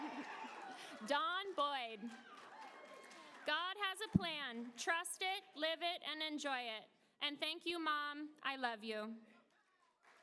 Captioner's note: applause